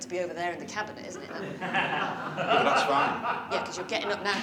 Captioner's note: laughter